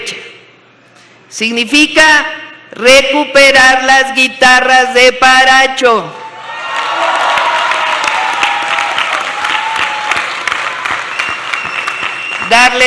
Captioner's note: applause